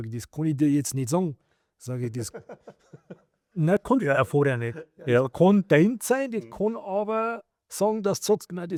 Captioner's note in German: gelächter